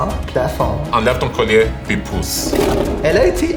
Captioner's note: roar